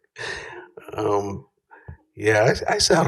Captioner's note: laughter